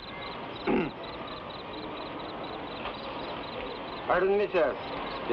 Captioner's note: man clears throat